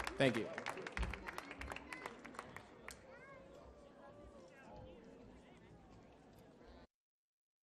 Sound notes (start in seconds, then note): 1.6 audience chattering